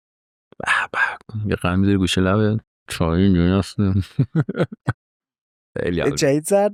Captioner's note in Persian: خنده